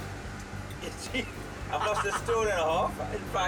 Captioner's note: laughing